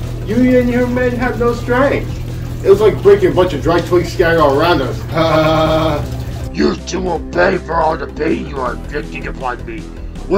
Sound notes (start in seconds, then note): 4.9 laughs